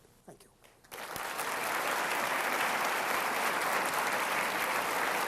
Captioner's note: applause